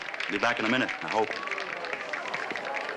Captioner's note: people clapping